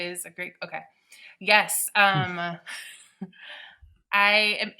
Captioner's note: chuckling